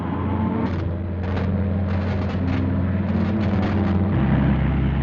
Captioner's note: machinery malfunctioning